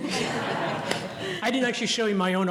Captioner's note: laughter